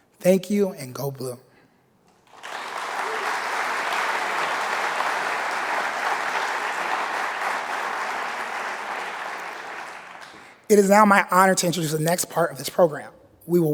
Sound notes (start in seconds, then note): 2.2 audience applauding